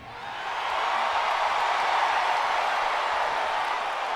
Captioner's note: audience cheers